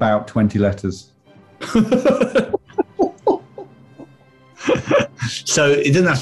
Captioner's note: giggling